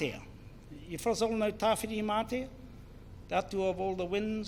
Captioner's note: foreign Language; foreign Language